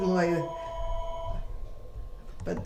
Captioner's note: phone ring